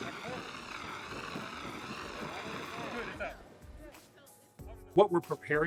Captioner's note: fire extinguisher sprays